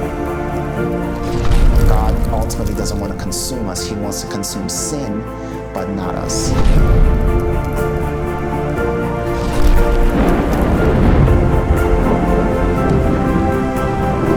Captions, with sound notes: [epic music] - God ultimately doesn't want to consume us, He wants to consume sin, but not us. [thunder]